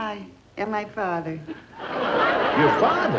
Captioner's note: audience laughing